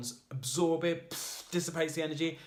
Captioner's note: hissing air